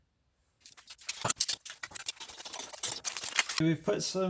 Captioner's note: more scrabbling